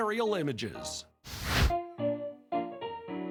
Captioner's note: fire whooshing; upbeat keyboard music